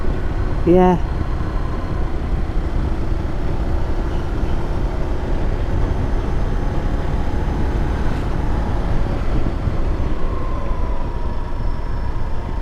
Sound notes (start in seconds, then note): 2.8 engine rumbling